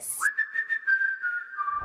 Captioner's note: whistle